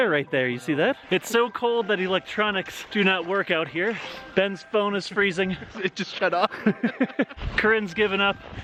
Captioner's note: laughs